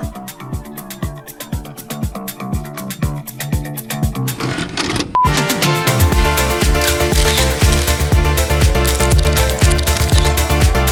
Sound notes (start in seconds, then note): 0.0 upbeat music; 4.8 video beeps; 5.2 upbeat music continues